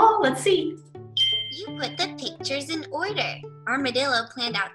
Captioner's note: ding